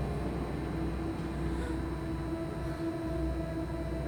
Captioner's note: gentle tense music; Kira gasps; gentle tense music